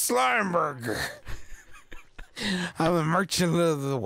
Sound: laughing

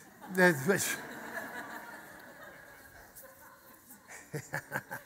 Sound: audience laughter

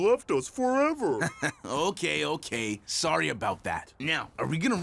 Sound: chuckling

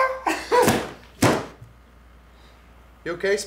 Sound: books thudding

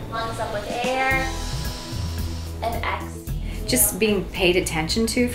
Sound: breathes

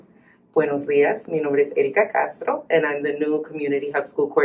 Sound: speaking spanish

